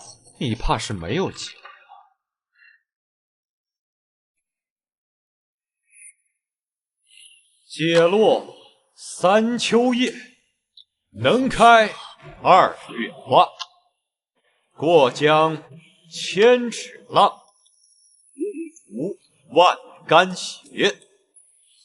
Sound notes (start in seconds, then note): 7.5 reciting poetry